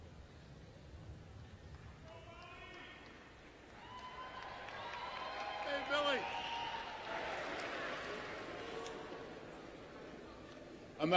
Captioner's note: applause